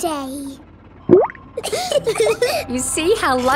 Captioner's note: bubbles; laughing